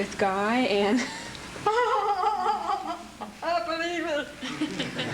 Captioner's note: laughing